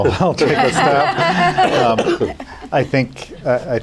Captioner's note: laughter